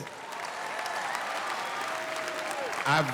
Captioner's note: audience cheers